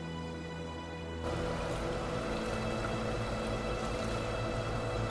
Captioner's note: water running